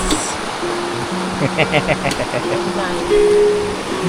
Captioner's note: laugh